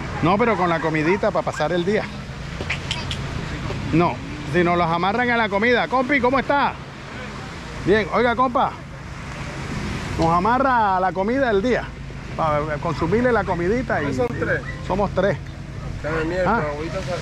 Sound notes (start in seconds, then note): 13.2 haggling